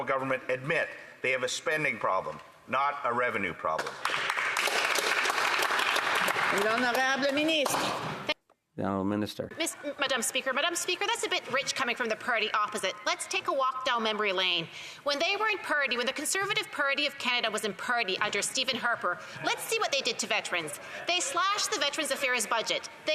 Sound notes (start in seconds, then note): 8.2 some Applause